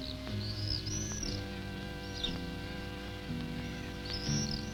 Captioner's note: bats chirping